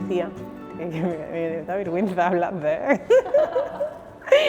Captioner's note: giggles